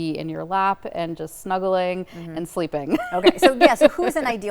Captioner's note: laughs